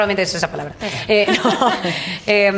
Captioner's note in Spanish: risas